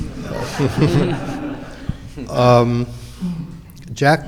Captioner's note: audience laughing